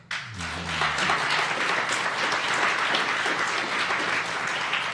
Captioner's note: audience applauding